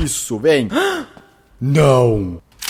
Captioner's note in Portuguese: outro suspiro